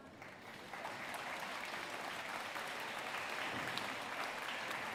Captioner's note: audience applauding